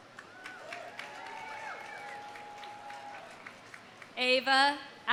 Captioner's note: audience applauding; audience cheering